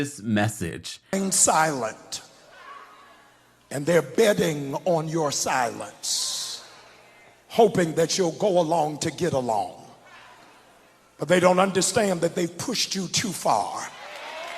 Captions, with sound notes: - [Voiceover] ...Silent, and they're betting on your silence, hoping that you'll go along to get along. But they don't understand that they've pushed you too far.